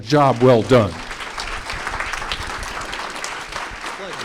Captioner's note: applause